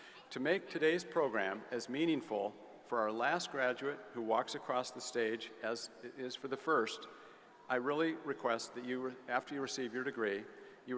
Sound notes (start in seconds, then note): none